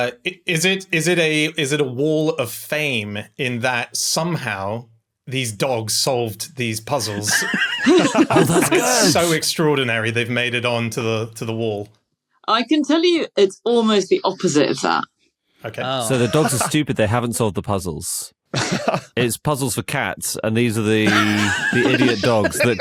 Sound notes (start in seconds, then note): 6.9 others laughing; 21.0 laugh; 21.0 laughs